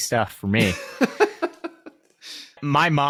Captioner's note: laughing